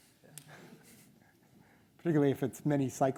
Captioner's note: audience chuckles